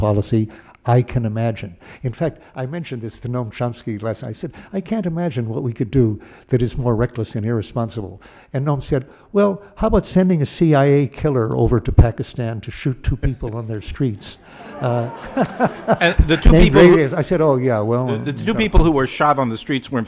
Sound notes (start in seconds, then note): 14.0 laughter